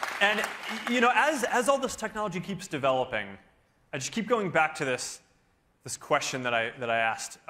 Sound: cheering

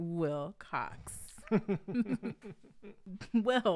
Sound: chuckling

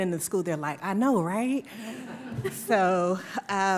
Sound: laughter

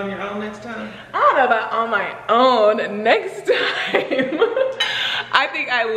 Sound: laughing

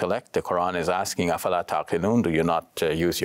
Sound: speaks in Arabic

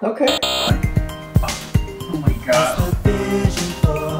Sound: buzzer; scoffs; new demo plays in background

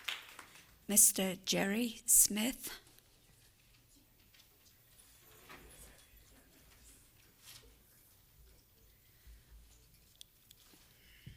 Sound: applause

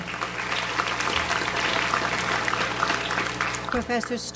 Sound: audience applauds

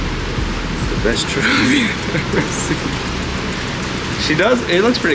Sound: laughs

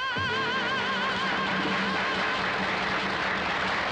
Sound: audience applauding

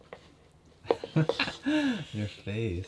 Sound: laughing

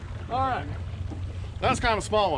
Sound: fish splashing

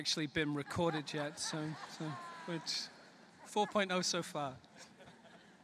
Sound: laughter; laughter

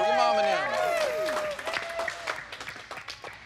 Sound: cheers

